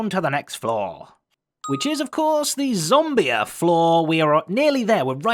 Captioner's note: ding